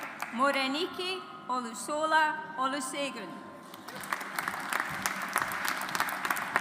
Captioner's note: audience applauds